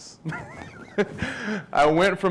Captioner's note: laughs